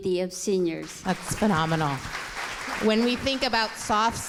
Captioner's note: audience applause